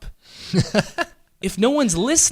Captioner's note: laughing